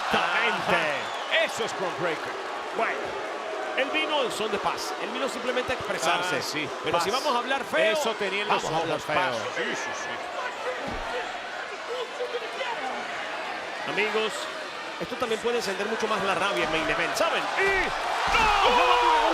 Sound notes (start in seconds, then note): 10.5 applause